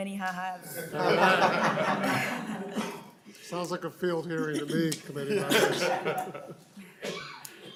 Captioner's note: laughing